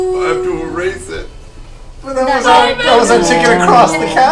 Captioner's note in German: tränenreich